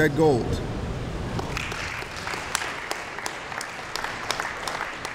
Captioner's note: applause